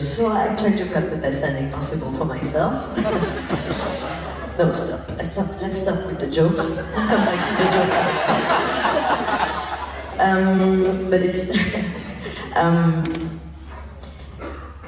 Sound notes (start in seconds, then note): 3.0 laughs; 8.5 laughs